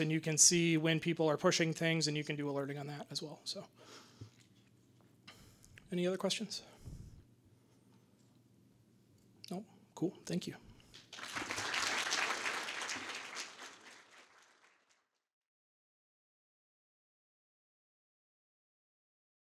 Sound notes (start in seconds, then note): 9.0 audience applause